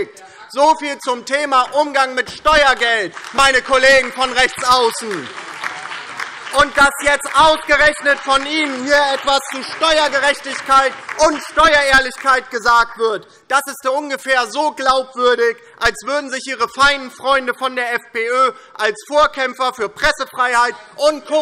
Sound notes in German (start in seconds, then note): 5.0 Beifall DIE LINKE, BÜNDNIS 90/DIE GRÜNEN und SPD